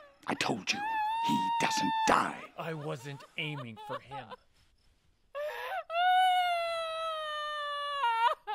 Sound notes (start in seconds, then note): 5.3 Mabel sobs